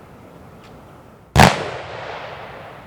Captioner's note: gunshots